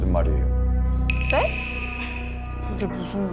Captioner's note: shocked sound effect